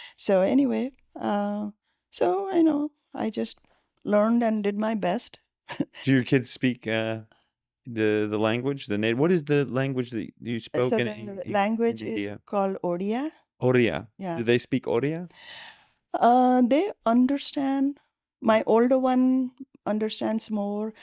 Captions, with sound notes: So anyway, I just learned and did my best. Do your kids speak the language? What is the language that you spoke in India? Language is called [NON-ENGLISH] [NON-ENGLISH] Do they speak [NON-ENGLISH] They understand. My older one understands more.